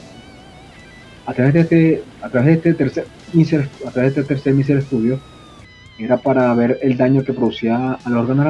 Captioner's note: mosquitoes